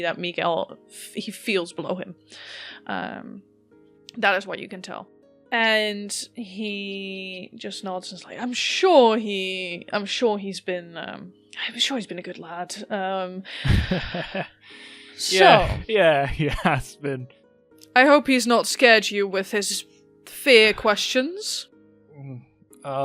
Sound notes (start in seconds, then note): 16.2 chuckles